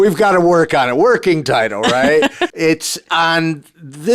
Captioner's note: laughing